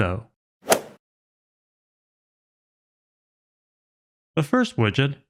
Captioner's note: golf ball hit sound effect